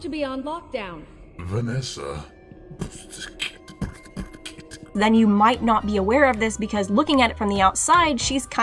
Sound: beatboxes freddily

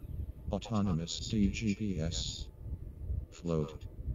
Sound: robot voice

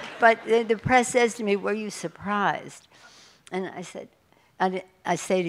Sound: laughter

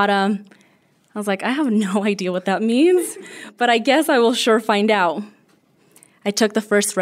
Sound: laughter

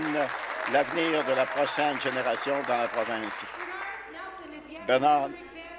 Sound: applause

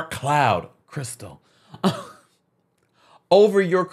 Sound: laughing amusingly

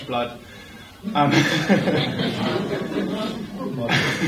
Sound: laughter

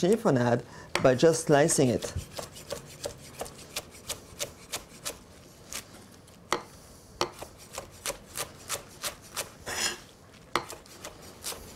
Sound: slicing sounds

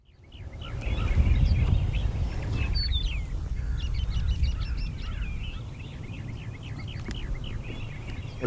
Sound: birdsong

